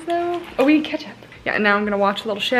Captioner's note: whispering